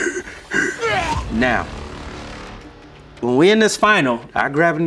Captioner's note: vomits; dry heaves